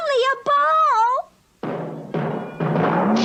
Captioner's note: bouncing